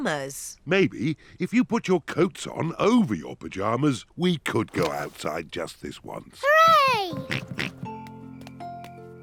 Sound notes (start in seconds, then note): 7.2 oinks